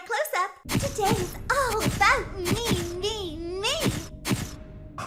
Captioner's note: camera flash sounds